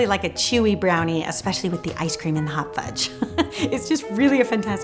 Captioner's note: laughs